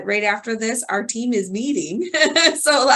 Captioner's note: laughs